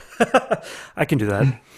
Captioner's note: laughs